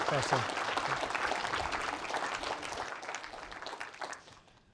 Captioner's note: applause